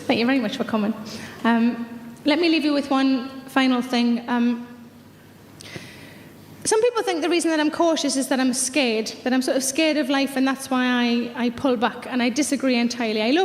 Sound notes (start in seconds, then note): none